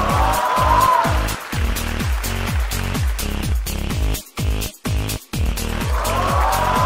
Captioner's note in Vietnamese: Vỗ tay